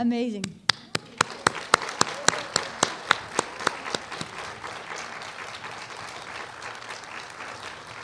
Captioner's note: applause